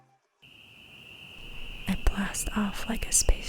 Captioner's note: crickets chirping